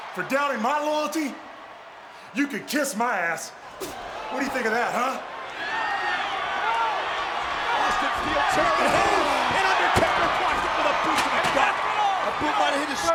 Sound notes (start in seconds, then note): 7.4 presenter speaking faintly off mic